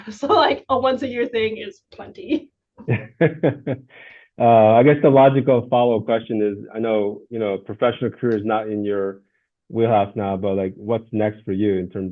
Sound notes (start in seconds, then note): 2.8 laughs